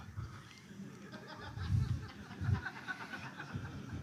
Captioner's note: laughter